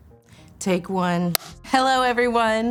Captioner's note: slate clap